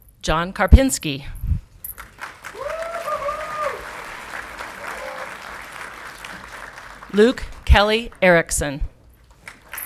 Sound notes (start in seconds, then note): 1.9 audience clapping and cheering